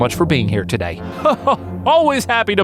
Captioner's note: Death laughs